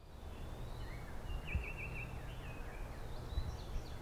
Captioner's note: birds chirping